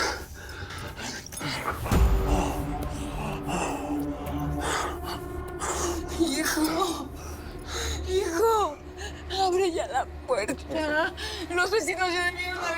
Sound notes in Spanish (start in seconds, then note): 3.6 Jaguar jadea